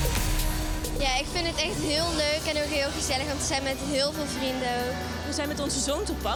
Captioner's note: speaking in foreign language